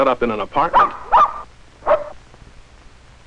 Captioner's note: barking